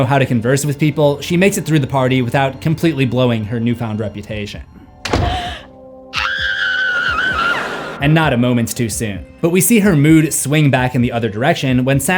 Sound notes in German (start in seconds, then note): 5.0 Tür schließt sich; 6.1 schreit